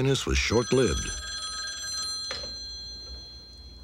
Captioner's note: phone ringing